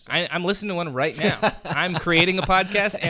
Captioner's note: laughter